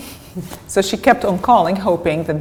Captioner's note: chuckle